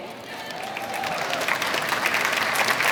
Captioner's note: clapping